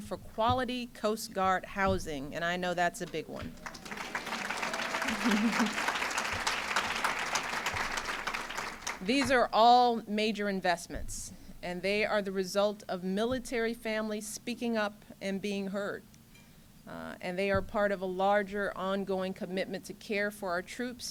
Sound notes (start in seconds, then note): 3.4 applause